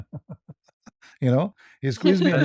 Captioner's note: ketawa